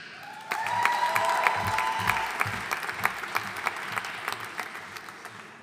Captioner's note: audience cheering and applauding